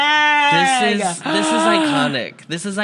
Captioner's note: gasps